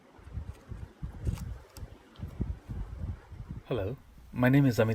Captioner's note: sound of wind